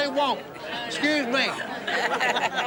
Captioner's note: laughter